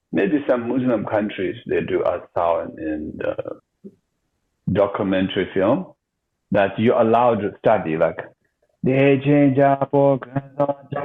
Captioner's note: chants